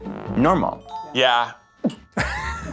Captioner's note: laughing; laughs